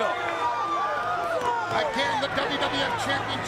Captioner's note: crowd chattering